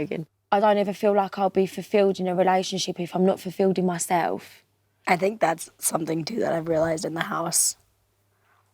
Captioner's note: none